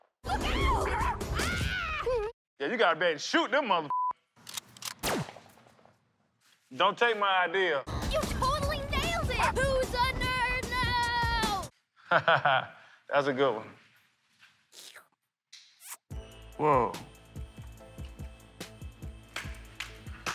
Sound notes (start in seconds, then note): 4.5 gun cocks, gunshot